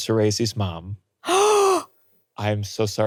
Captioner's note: gasps